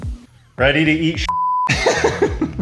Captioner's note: beep